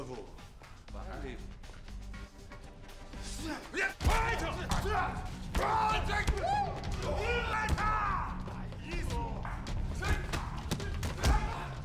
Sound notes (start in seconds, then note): 3.4 grunting